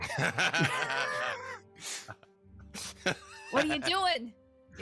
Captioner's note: freely laughing